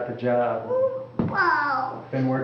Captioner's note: sound of child playing with toys